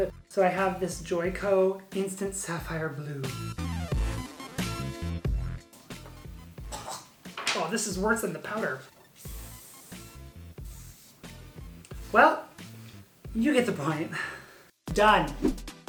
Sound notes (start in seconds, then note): 6.6 coughs; 9.0 air spraying